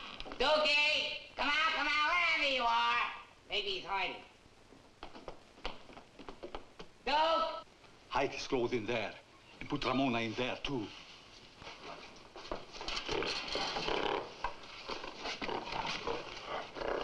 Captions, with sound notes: - Dukie! Come out, come out, wherever you are. Maybe he's hiding. Duke! Hide his clothes in there, and put Ramona in there too. (gorilla snorting)